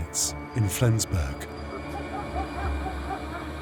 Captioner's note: dogs bark